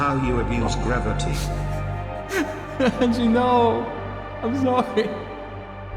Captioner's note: laughing